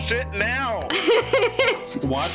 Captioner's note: laughter